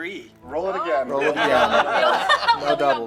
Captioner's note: laughter